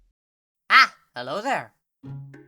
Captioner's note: quacks